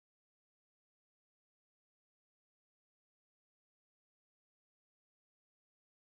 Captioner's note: rangers speaking Spanish